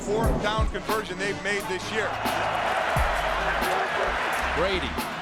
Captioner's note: crowd cheering